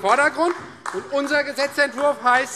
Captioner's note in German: Demonstrativer Beifall SPD und DIE LINKE